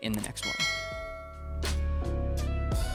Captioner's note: ringing; upbeat music